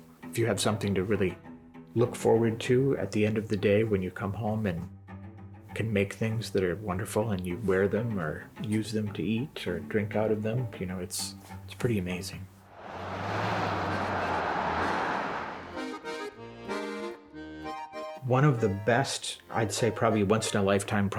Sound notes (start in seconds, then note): 12.7 car whooshes; 16.0 accordion music